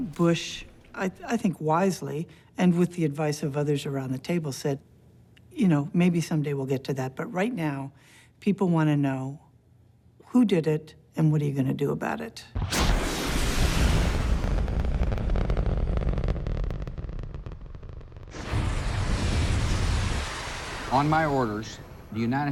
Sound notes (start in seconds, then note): 12.5 missiles launching